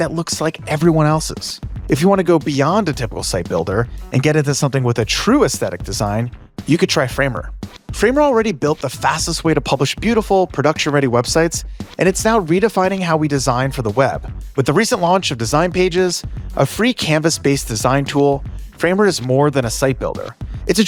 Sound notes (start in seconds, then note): none